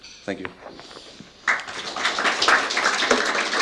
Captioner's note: applause